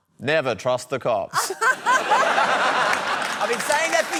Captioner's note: laughter